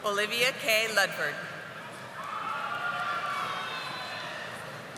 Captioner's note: audience applauding